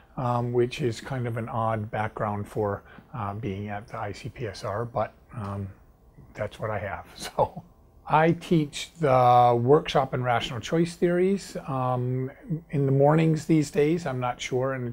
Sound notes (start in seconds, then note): 7.2 laughs